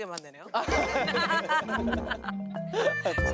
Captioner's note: hahahAHahAhahaHa